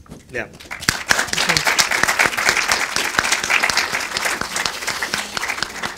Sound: applause

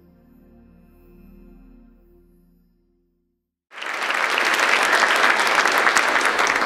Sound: audience applause

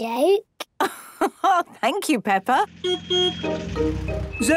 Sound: laugh; honking

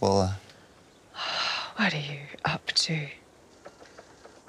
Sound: sighs

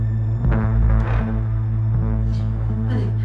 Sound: floor squeaks

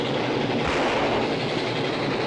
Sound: gunshot

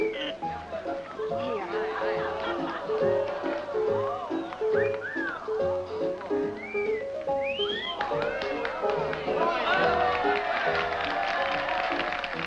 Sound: crowd chattering

